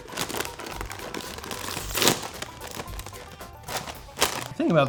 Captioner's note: packet crinkling